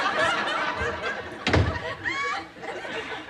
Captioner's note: door slams